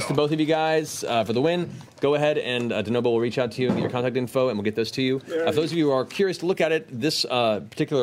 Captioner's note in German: none